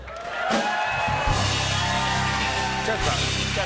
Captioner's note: cheers and applause